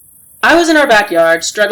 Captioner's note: faint night ambient noise with sound of folding clothes